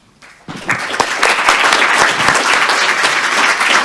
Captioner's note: applause